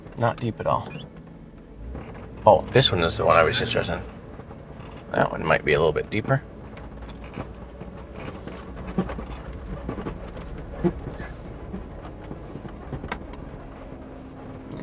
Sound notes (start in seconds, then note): 7.1 suspenseful music continues; 7.1 vehicle rattling